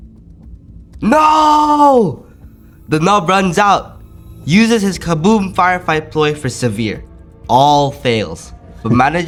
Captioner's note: screaming